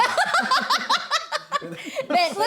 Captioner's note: laughing